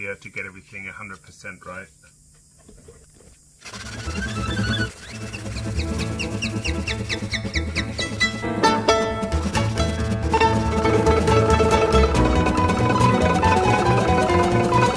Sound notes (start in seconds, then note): 3.6 sandpaper scraping; 4.3 speedy violin and piano music